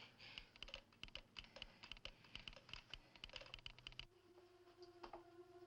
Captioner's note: telegraph machine clicking; gentle dramatic music